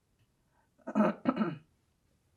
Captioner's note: clears throat